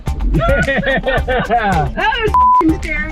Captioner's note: laughs; beep